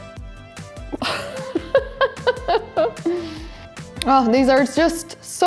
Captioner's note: laughs